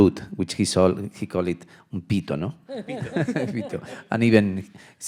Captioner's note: speaking in Spanish